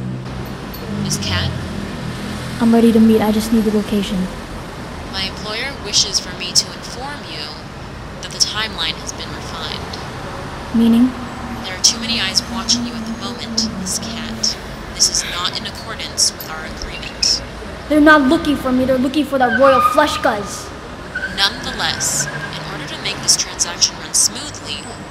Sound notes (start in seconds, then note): 0.2 woman on phone; 4.5 woman on phone; 11.2 woman on phone; 20.6 woman on phone